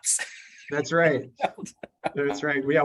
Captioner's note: laughing